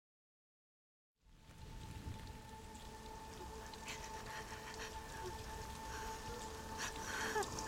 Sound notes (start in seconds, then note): 3.1 quietly sobbing